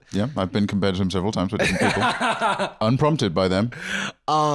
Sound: laughing

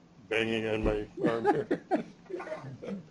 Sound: chuckles

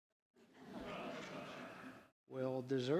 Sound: chuckling

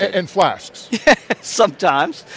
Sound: laughter

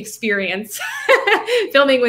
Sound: laughing

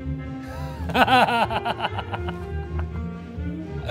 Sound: Ben laughs

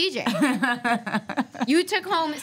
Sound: laughs

